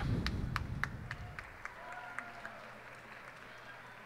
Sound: cheers and applause

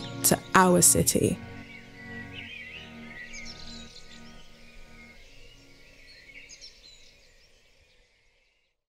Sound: birds tweeting

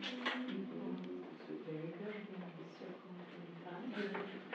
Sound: murmuring

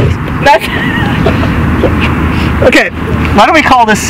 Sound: laughs

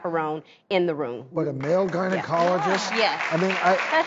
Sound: applause

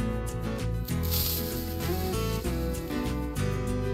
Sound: lively country music; TNT rustling

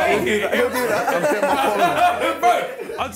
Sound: laughs

